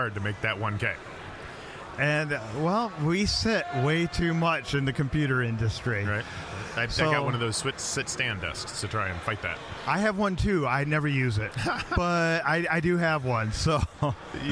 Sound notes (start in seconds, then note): 11.5 laughing